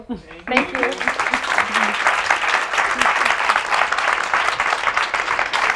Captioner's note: audience applauds